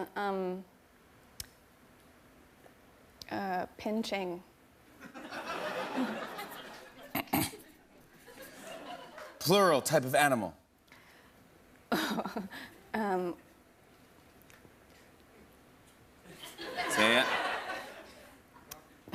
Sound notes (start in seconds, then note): 5.0 laughter; 11.9 laughs